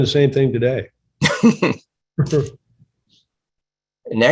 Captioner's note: laughter